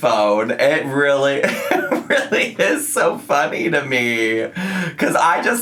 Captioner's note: laughs